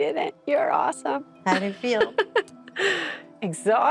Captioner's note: laughs